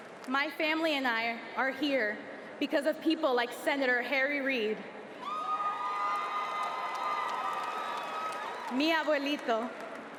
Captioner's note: applause